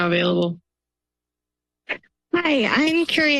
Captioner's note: silence